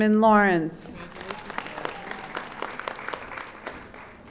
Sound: audience applauding

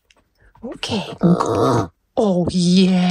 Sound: grumbling

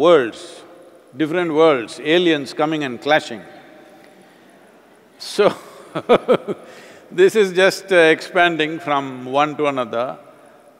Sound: laughs

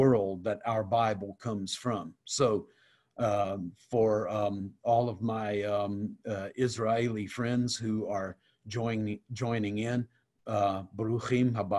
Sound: speaking Hebrew

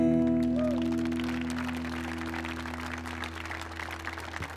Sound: audience applauding

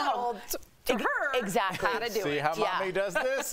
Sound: laughter

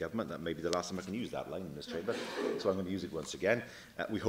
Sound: laughter

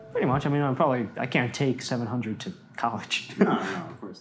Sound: laughs

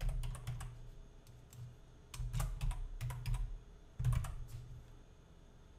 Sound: typing and clicking

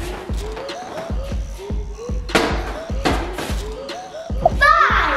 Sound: giant cube hits floor

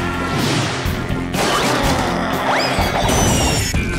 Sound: growling

